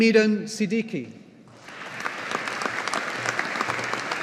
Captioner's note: audience applauding